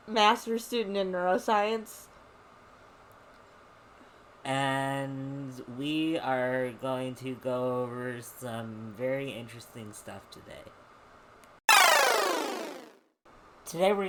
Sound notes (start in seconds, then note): 11.7 electronic sounds sliding down a scale